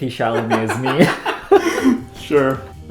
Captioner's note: laughter